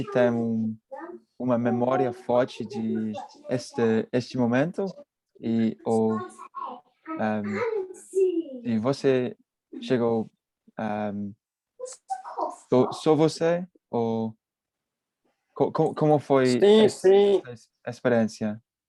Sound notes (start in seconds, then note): 5.7 child speaking